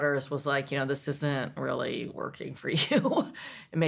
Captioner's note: laughs